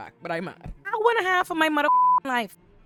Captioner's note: beep